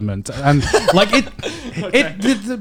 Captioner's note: laughs